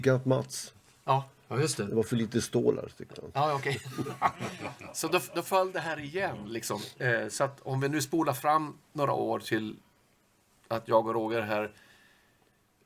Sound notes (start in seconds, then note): 3.5 laugh